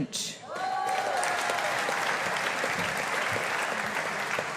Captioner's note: audience applauding